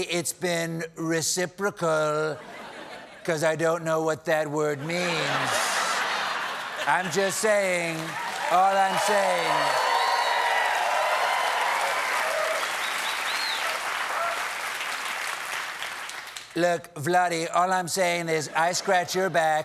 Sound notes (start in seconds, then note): 4.8 laughter; 11.2 cheers and applause